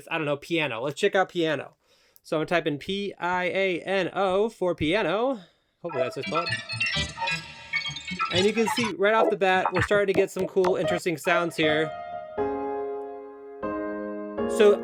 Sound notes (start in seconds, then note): 8.2 MPC making sounds; 12.4 piano music